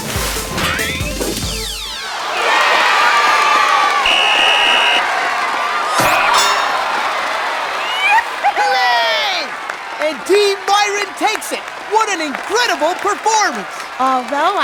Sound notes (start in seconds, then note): 1.3 wild cheering; 4.0 blows whistle; 4.1 applause-o-meter dings